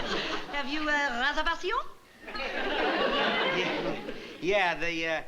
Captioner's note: french accent